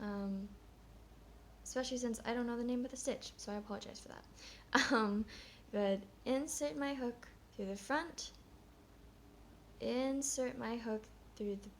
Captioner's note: chuckles